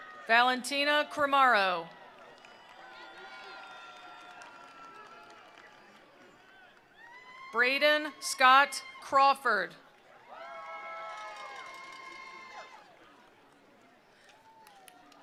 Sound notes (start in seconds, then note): 0.0 attendees applauding; 0.0 attendees cheering; 1.9 attendees applauding; 1.9 attendees cheering; 10.2 attendees applauding